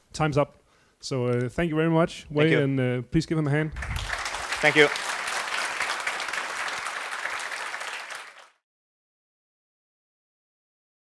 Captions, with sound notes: - Time's up, so thank you very much Wei-Meng. - Thank you. - And please give him a hand. (applause) - Thank you.